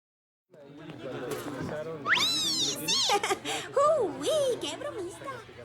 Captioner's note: happy chatter